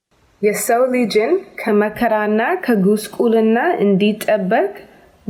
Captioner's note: speaks in foreign language